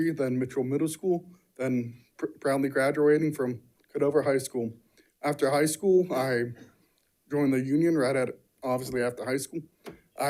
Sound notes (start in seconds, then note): none